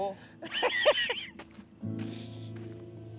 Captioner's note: speaking spanish; laughs